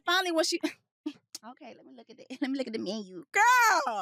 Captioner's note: giggles